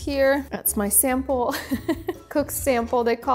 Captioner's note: laughs